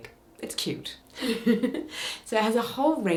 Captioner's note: chuckles